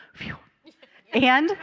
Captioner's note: panelists laughing